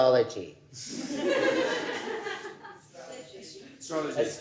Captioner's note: audience laughing